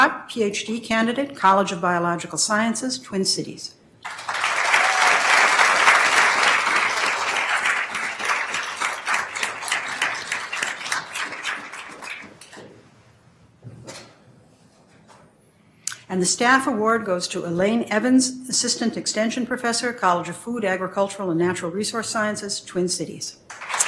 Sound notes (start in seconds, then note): 4.0 attendees applauding